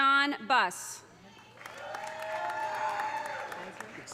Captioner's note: audience applauding; audience cheering